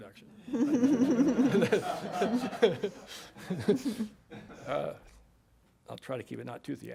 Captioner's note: laughter